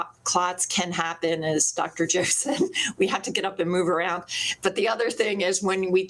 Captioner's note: laughs